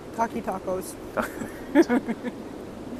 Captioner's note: laughter